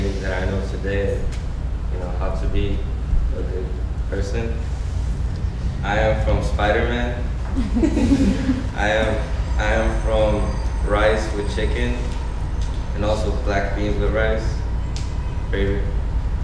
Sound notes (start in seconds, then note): 7.5 audience laughing